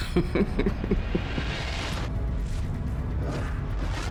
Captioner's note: chuckles